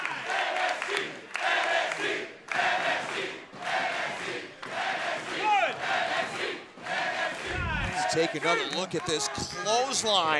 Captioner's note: fans chanting